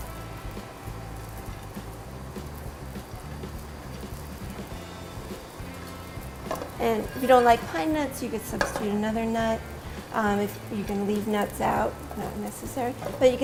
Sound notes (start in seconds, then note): 3.6 sound of nuts cooking in pan